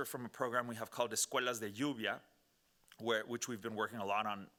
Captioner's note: speaking Spanish